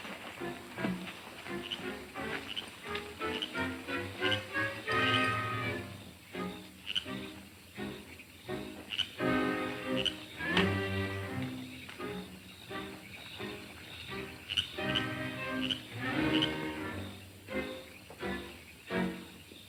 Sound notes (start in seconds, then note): 2.0 frog croaking; 2.0 playful orchestral music